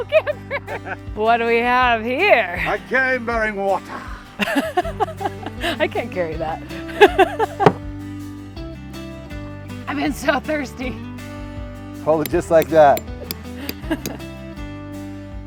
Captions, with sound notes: Ow, Camper! What do we have here? - I came bearing water. - (laughs) I can't carry that. I've been so thirsty. - Hold it just like that.